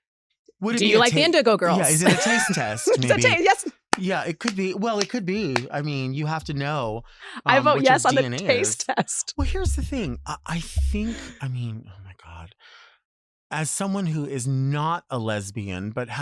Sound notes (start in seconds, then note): 1.7 claps hands; 3.4 laughs; 7.3 laughs